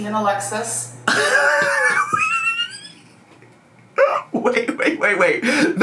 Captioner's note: laughing